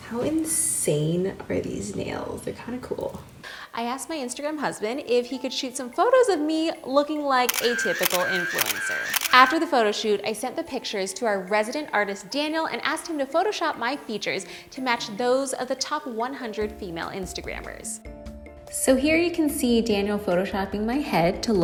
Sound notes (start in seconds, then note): 7.4 camera shuttering; 18.0 soft music